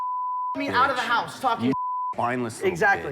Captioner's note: beep